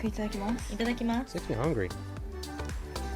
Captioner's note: speaking in foreign language